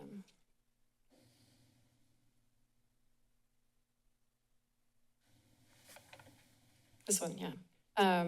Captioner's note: silence